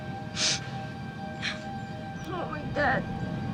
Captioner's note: crying